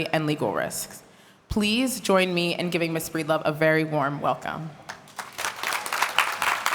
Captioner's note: applause